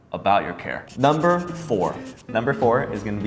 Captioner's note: marker scribbling